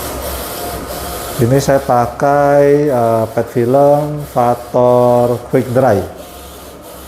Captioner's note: printer machine noise